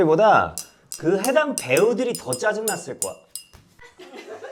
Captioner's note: ding ding-dingding